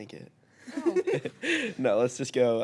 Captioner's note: group laughing